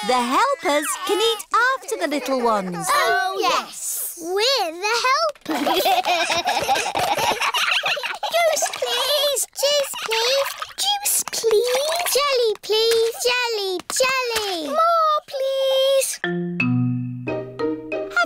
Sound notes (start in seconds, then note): 5.4 all giggling